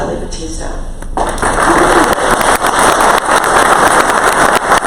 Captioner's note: crowd applause